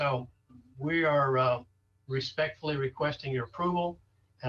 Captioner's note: interfering audio